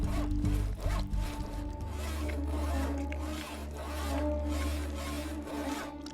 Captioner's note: eerie music; saw cutting